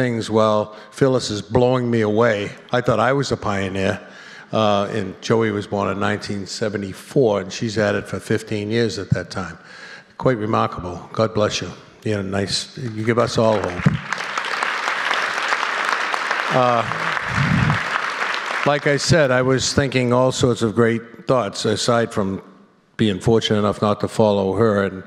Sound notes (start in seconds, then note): 12.8 applause